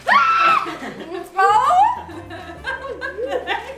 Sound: boy screams; woman laughing

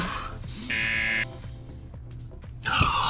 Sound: buzzer; sighs

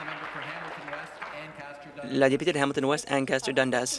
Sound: applause

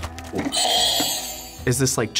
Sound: buzzer rings

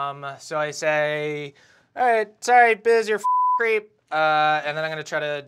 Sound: beep

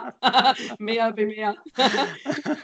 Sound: laughing

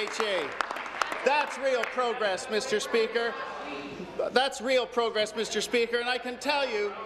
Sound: applause

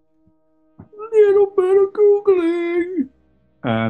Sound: high pitched

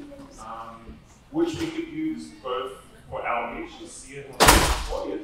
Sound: door slamming

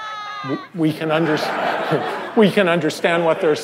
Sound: laughter

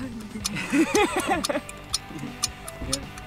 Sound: both gasps with laughter

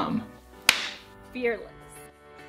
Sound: hands clap

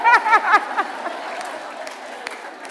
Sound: laughter

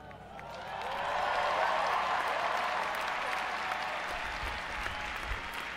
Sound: audience applauding and cheering

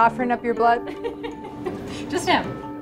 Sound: laughter

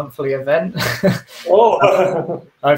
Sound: laughs

